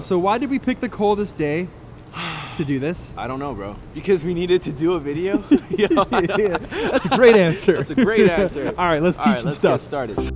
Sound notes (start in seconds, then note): 5.2 laughs